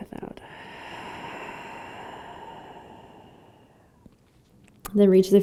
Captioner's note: exhaling